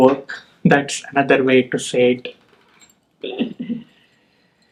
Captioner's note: chuckles